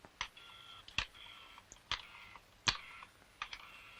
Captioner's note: rotary dial whirs